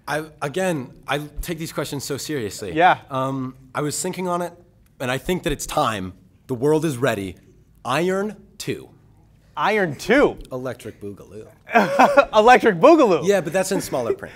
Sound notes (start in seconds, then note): 11.7 laughter